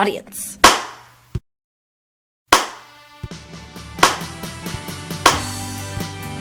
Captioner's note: slow clapping